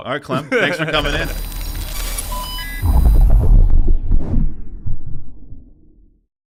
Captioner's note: electronic beep and air whooshes